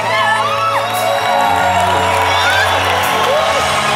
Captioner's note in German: Jubel und Applaus